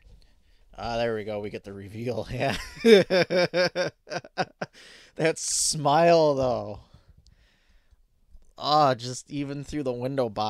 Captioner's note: laughing